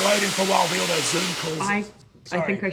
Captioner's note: electricity cracking